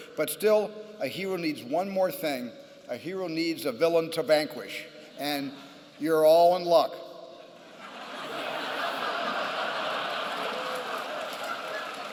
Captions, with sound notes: But still, a hero needs one more thing. A hero needs a villain to vanquish. And you're all in luck. [LAUGHTER]